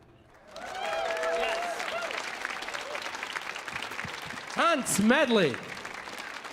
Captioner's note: audience applauding